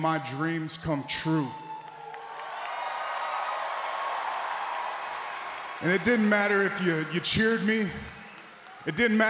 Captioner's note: applause